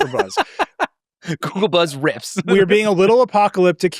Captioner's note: laughs